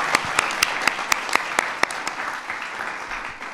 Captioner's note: applause